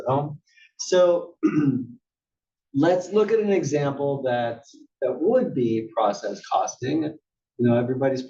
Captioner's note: cough